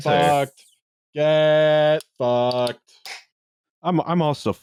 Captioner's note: beer can goes SNAP!